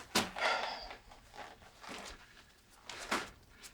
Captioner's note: Anderson sighing